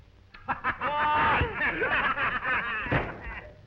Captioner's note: men laughing